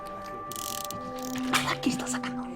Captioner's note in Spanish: Sonido al girar el cilindro del revólver